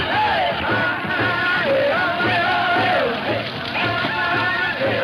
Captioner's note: flames crackling